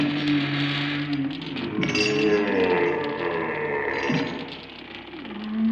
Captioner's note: door creaking and closing; ominous howling